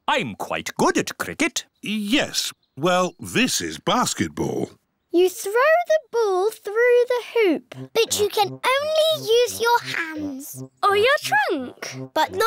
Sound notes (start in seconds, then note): none